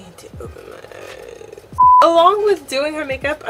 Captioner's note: beep